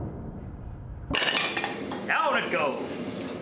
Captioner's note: metal hitting the floor